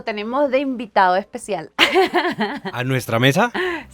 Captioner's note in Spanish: risas